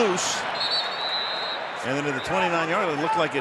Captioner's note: whistle